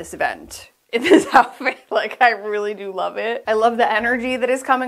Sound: laughing

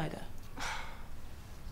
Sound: sighs

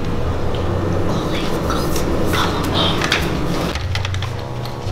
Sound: whispering

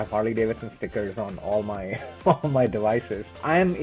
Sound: laughs

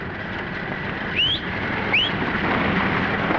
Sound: whistles

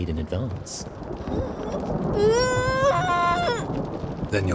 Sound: muffled cry

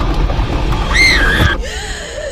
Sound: woman screams

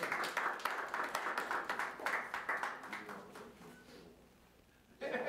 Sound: attendees applauding

